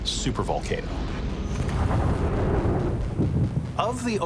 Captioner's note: eruption booming